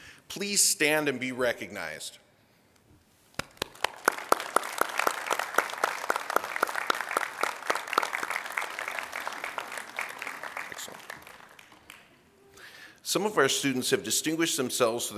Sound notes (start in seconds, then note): 3.4 applause